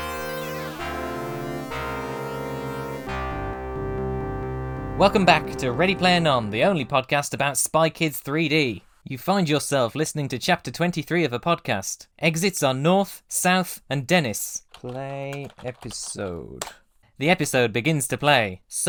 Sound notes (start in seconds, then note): 0.0 intro music; 14.6 loud typing